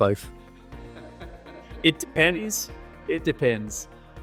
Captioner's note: laughing